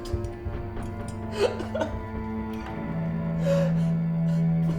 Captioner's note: crying